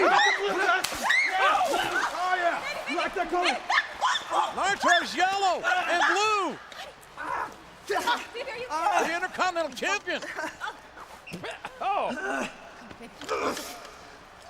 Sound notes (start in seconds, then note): 3.6 Melina screaming; 11.2 spluttering